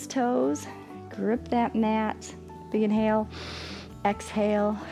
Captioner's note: exhales; inhales